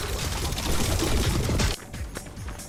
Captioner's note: none